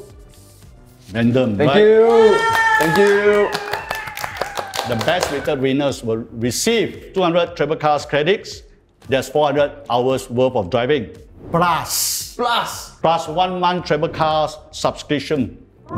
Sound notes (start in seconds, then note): 1.9 cheers; 2.2 clap